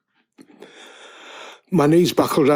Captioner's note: inhale